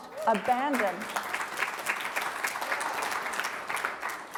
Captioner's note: applause